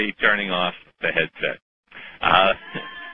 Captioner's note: laughter